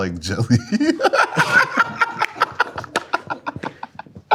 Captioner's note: both laughing